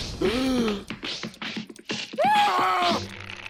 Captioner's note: gasp; smacking, punching noises; screams